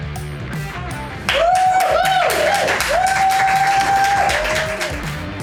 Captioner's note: crowd applause